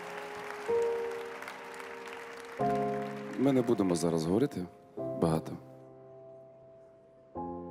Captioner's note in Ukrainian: оплески